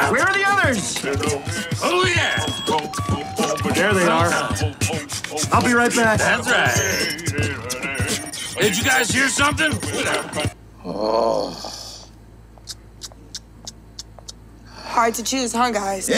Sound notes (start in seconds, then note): 12.5 lips smacking